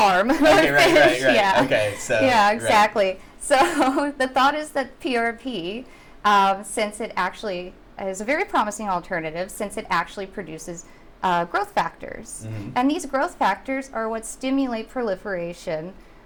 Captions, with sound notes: - How to fish? Right, right, right, so. - (laughs) How to fish, yeah. - So, right. - Yeah, exactly. So, the thought is with PRP since it actually is a very promising alternative since it actually produces growth factors and these growth factors are what stimulate proliferation